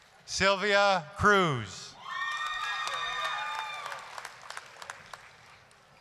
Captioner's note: applause, cheering